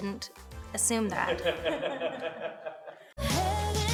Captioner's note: people laughing